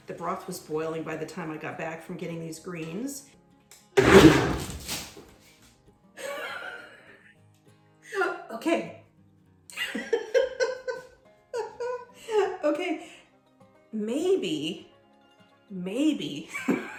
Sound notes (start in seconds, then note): 4.1 blender grinds and splashes; 6.2 laughter; 16.5 laughter